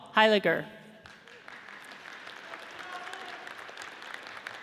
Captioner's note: audience cheers